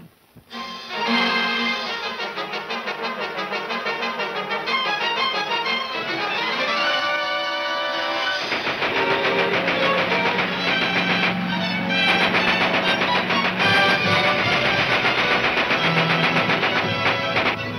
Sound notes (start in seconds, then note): 0.2 dramatic music; 8.2 gunshots banging; 14.0 gunshots banging